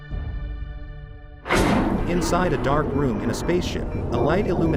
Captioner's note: heavy mechanical door opens